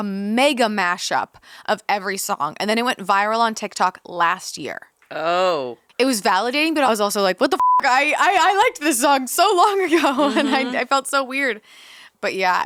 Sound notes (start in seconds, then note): 7.6 beep